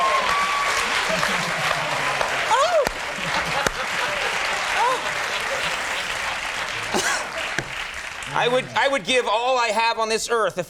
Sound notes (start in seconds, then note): 0.2 audience applauding; 4.5 moaning